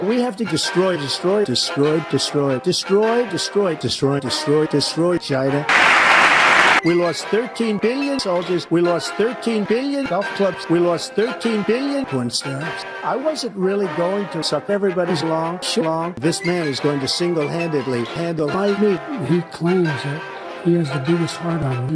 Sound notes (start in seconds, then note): 5.7 enormous applause